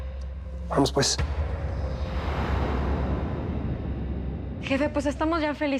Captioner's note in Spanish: exhala